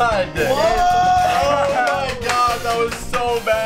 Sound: group yelling and clapping

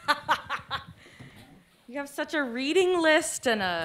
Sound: laughs

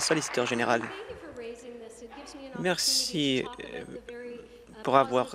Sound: applause

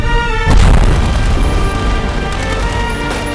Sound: gunshots

